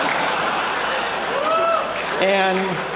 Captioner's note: laughter; applause